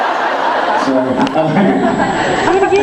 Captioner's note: laughing; laughs